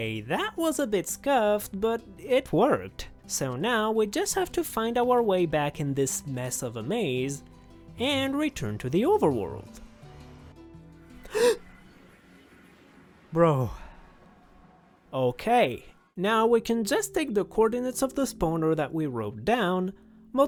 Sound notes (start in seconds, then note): 11.2 gasp